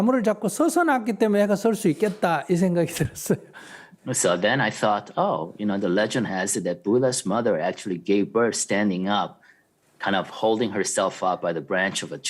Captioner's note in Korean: 스님 웃음